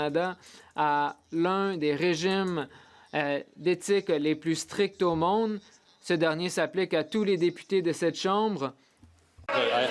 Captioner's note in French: voix de l'interprète